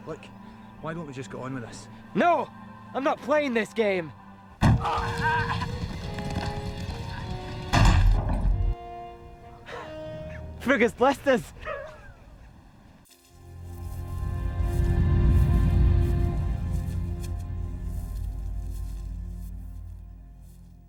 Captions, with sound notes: - Look, why don't we just get on with this. - No, I'm not playing this game. (grunting) Frig has blessed us!